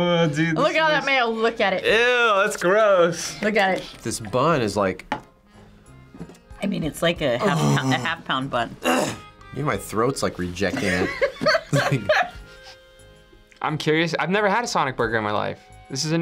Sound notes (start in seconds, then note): 8.8 clears throat; 10.7 laughs